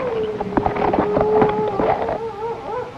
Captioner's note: coyote howling